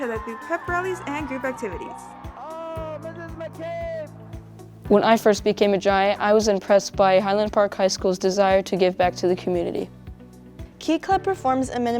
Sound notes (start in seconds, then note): 1.9 crowd cheering